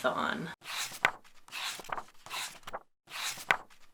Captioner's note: pages turning